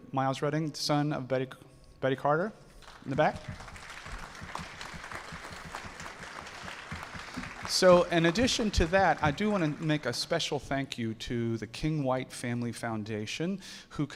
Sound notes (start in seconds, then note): 2.8 audience applauding